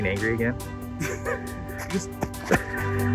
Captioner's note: laughs